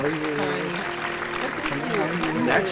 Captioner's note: applause; instrumental Music -- theme; applause continues; instrumental Music -- theme